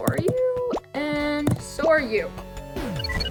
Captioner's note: digital pops